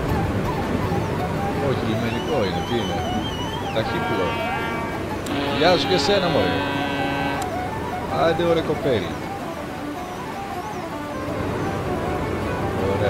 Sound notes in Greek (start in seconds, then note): 3.6 Κόρνα!